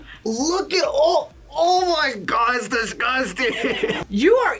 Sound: laughs

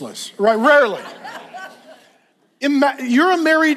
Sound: congregation laughs

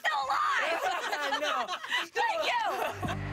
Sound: laughter

